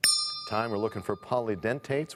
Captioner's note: bell rings, time expires